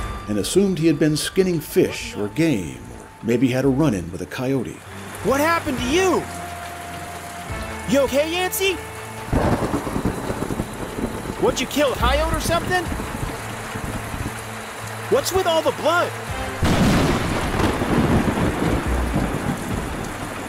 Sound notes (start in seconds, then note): 9.2 thunder crashing